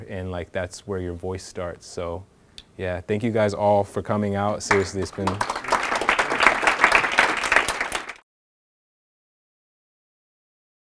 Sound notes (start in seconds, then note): 4.6 audience clapping